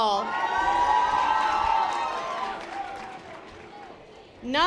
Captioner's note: audience applause